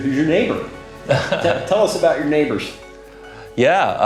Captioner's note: chuckles